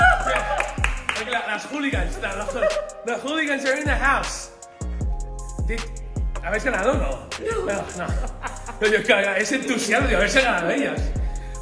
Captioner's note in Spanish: Cheering